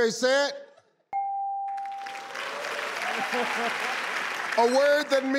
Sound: bell dings; audience applauds

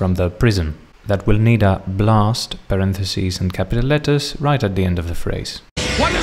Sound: blast

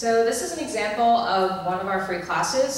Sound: voiceover

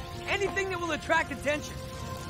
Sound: none

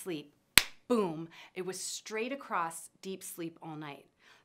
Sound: hands clap

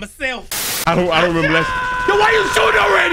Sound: screaming

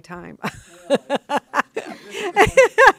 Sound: laughing

